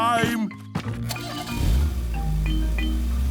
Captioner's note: engine starting